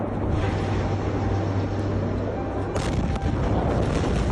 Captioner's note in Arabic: انفجار قوي; المتفرج يتحدث بلغة أجنبية